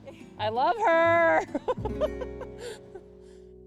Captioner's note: laughs